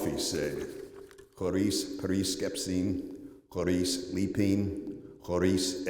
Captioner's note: non-english speech